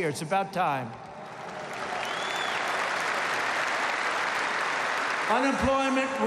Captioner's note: applause